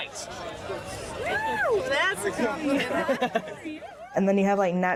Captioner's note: Quentin laughing